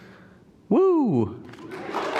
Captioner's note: applause